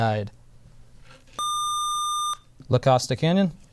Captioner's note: buzzer